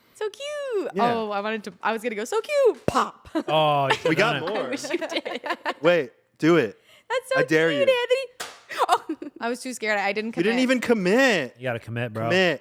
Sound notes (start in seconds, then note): 8.8 laughs